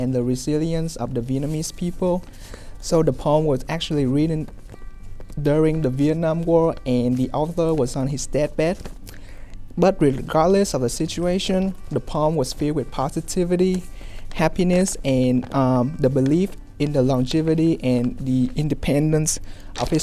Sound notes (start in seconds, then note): none